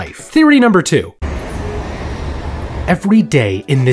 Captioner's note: traffic whirring